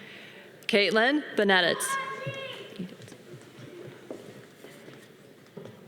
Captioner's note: audience cheering